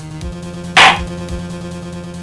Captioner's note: gavel slams